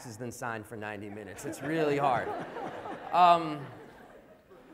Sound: laughter

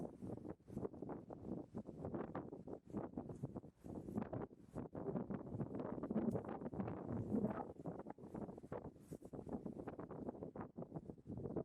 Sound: wind noise, rustle

